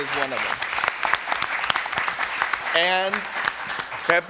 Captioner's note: applause